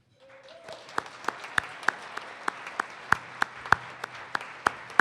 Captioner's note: participants applaud